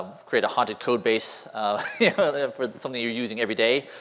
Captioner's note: laughter